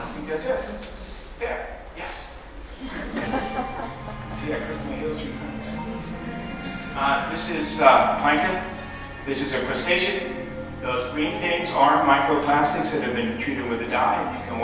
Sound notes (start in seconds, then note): 2.8 laughter